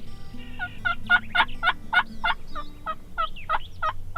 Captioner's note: turkeys chirp